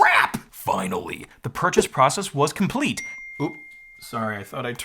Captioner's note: phone ding